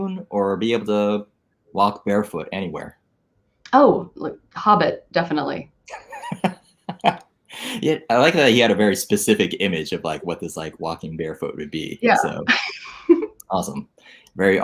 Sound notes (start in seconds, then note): 6.9 laughs; 12.0 laughs